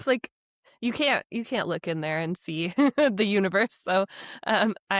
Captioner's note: laughs